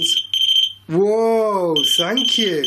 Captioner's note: machine beeping